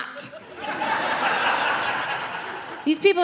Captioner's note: audience laughing